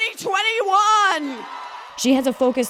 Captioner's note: cheering and applause